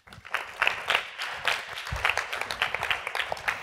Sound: applause

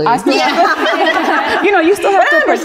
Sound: all laugh

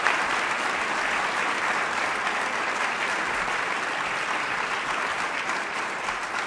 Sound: applause

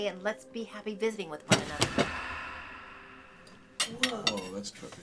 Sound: soft dramatic music; book thudding

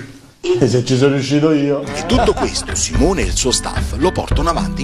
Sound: laughs

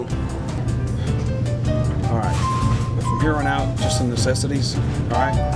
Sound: sighs

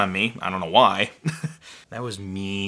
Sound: chuckles

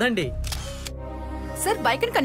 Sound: camera clicks

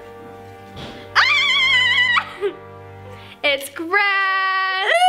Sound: screaming

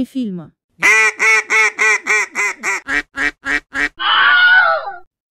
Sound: a lot of duck talk

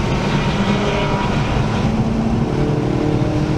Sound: Nascar sounds

